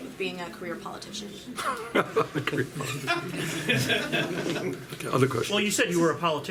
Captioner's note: laughing